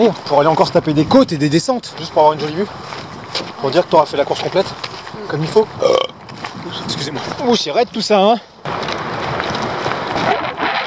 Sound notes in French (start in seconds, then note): 5.7 gros rot